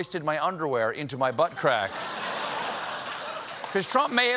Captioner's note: laughter